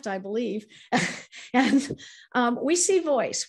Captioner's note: chuckles